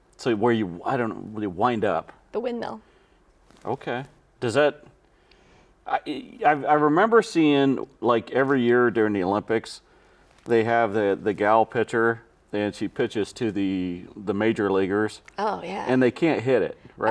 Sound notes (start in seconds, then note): none